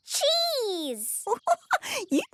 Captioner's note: giggling